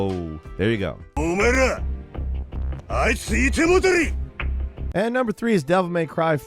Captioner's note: man speaks in foreign language